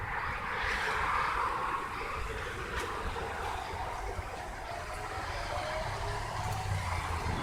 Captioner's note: traffic sounds